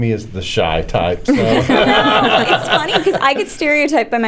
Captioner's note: laughter